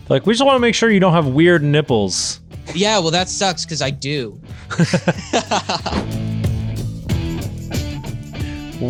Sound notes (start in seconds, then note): 4.6 laughing; 6.4 upbeat rock music